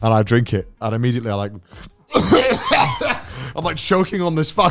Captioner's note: coughing